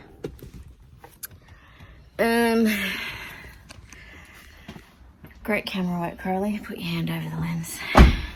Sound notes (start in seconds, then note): 2.8 sighs again